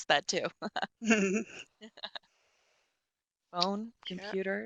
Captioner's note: chuckles